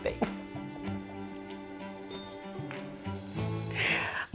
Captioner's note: laughs